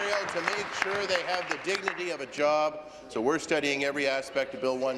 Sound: applause

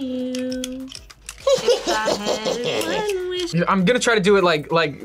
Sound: laughs eerily

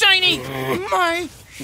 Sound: growls

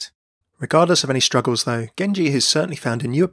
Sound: voiceover

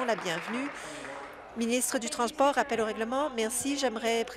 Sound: applause

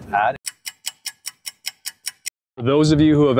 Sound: stopwatch ticking

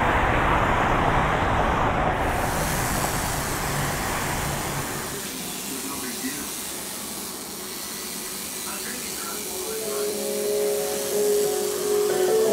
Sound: prison tattoo machine buzzing

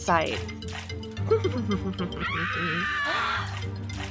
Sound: evil laughter

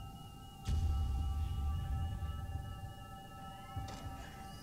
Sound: device beeping

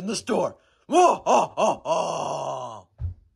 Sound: laughter

